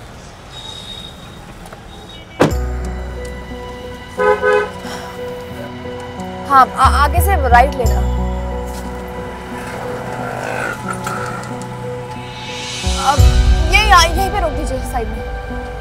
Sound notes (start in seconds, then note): 2.3 Car door closes; 4.1 Horns beeping; 4.8 Gauravi sighs; 10.2 Traffic sound